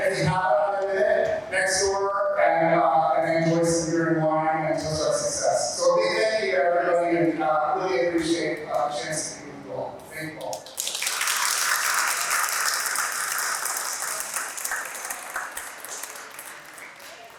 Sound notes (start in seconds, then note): 12.9 room clapping